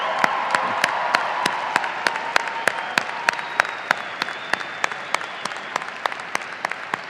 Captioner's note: audience applauding and cheering